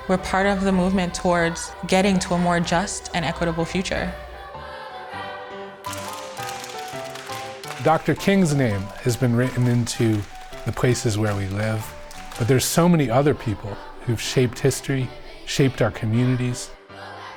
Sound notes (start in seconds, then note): 6.1 piano playing continues; 6.1 singers clapping